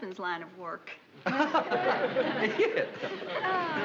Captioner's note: laughs